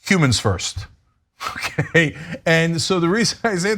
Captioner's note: laugh